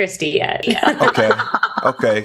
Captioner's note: laughter